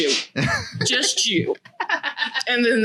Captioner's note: laughs